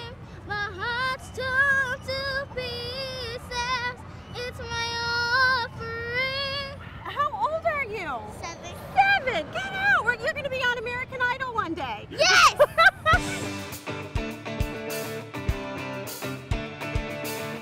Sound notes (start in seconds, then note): 11.9 shouts; 12.3 laughter